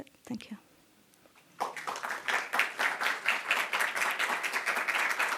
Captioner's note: applause